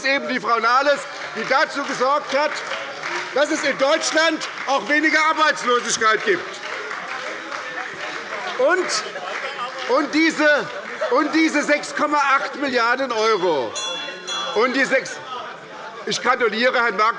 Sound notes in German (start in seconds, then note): 13.1 Glockenzeichen der Präsidentin